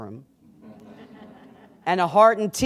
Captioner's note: laughter